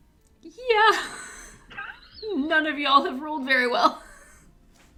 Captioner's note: horrified laughter